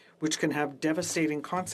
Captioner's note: speaking French